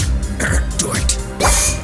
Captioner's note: clears throat; zap